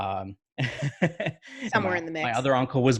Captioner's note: laughing